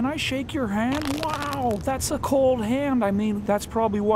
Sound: crackles

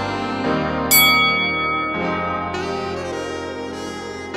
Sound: bell ringing

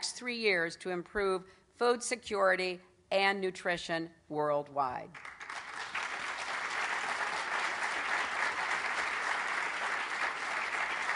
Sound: applause

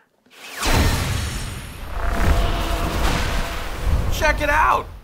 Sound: sonic whooshing

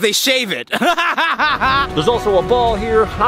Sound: laughing

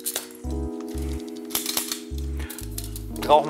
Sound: snap, snap

